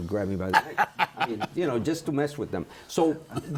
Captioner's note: laughs